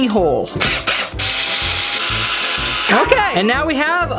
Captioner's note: drill whirs